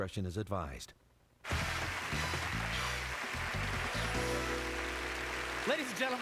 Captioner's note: applause